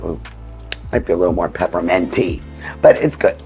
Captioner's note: cover clicking